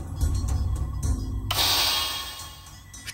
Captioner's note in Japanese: カリッジポイント消費音：カシィーン！